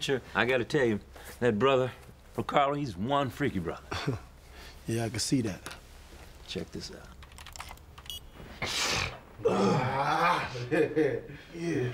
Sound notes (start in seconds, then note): 8.6 snorting softly